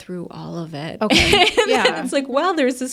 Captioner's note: laughs